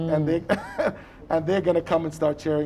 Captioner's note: chuckles